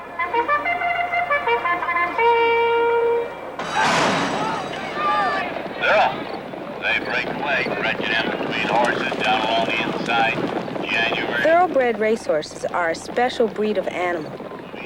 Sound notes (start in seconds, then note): 2.8 bell rings